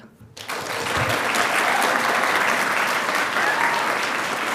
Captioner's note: audience applauding